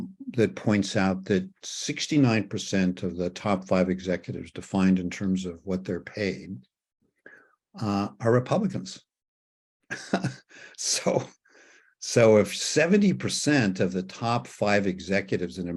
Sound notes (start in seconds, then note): 9.9 chuckles